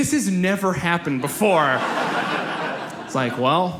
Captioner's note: audience laughs